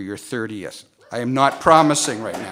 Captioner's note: cheering